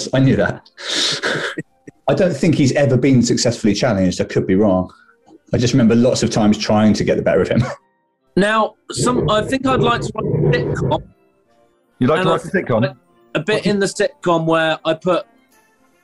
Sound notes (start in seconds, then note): 0.9 laughing; 10.7 dragging across floor